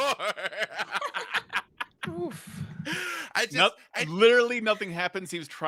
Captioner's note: laugh